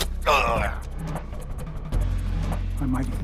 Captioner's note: Larson groaning